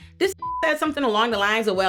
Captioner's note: beep